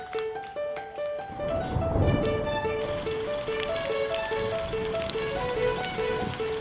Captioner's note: thunder and rain